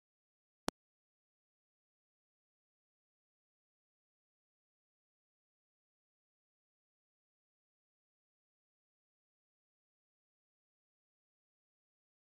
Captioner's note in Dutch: stilte